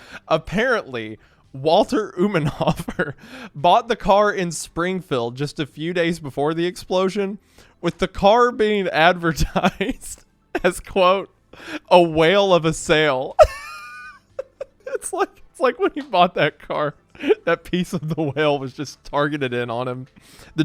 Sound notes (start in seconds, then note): 13.4 laughing